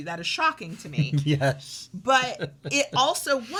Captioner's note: laughs